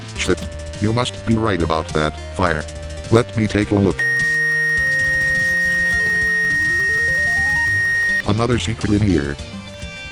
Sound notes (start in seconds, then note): 4.0 fastest-tempo x-ray beeping